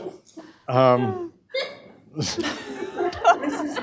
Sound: laughter

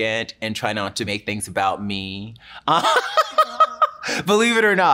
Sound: laughs

